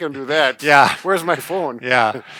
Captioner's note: scoffs